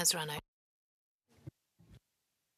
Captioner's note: speaking French